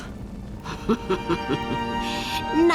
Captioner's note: laughing